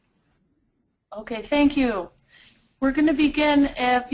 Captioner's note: voiceover